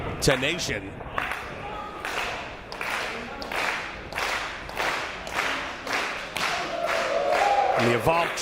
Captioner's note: applause